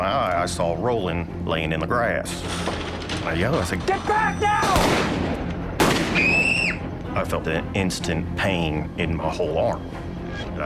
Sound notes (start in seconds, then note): 6.1 screams